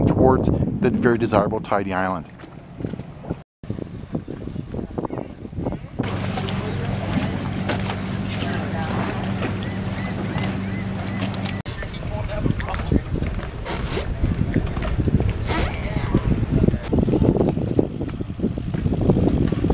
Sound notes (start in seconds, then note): 3.4 water lapping; 3.4 wind gusting; 8.5 crowd chattering; 9.5 seagulls cawing; 16.9 wind gusting